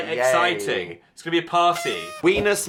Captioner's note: horn blowing